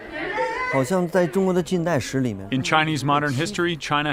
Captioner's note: speaking foreign language